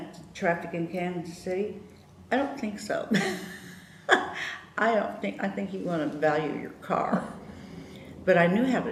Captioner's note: laughter